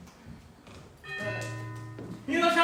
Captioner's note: door bell rings